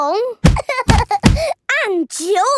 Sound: banging

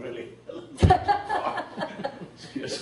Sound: laughs

